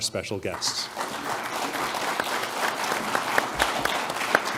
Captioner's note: applause